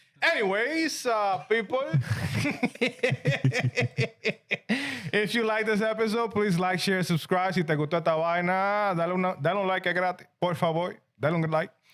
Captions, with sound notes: Anyways, people. (Laughing) If you like this episode, please like, share, subscribe. (Speaking In Foreign Language) That don't look like.